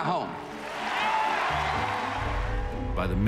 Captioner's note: crowd cheers